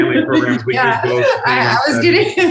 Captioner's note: laughing